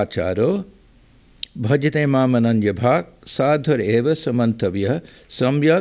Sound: non-english speech

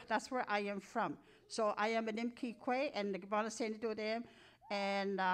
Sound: speaking in Cree

